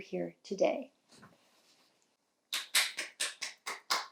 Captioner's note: applauds